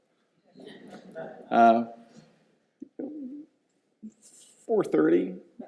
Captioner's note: audience laughs